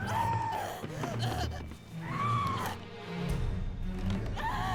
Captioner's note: dramatic music; woman screaming